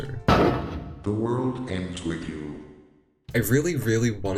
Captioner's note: text to speech